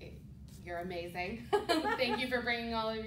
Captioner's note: laughter